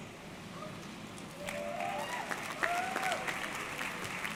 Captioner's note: audience clapping